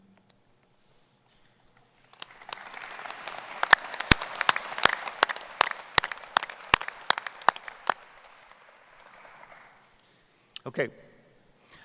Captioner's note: applause